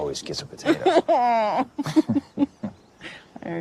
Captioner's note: laughs